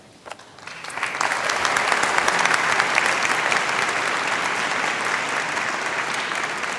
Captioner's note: applause